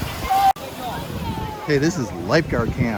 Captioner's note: teenagers chattering